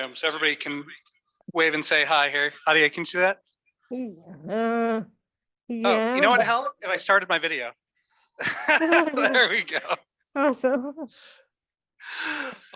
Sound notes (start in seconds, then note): 8.4 laughter